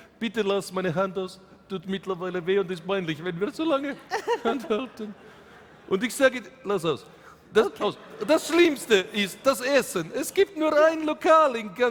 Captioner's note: speaking in German